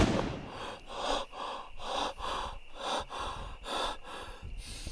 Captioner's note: Keith hyperventilating